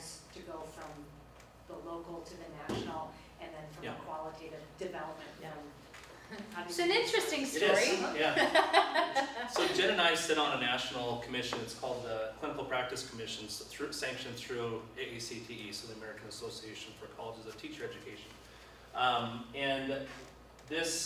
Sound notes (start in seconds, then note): 7.7 laughs